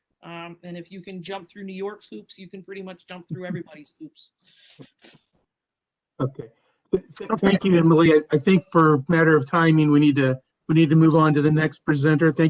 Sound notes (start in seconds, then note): 3.4 laughter